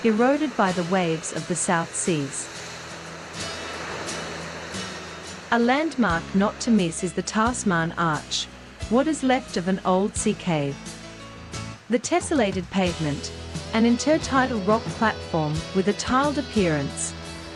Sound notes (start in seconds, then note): 2.8 sea waves